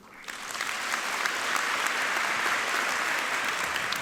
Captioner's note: applause